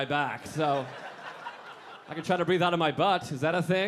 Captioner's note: audience laughing